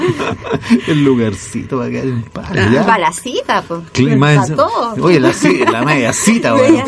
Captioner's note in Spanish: risas